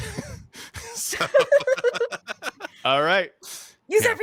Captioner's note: laughs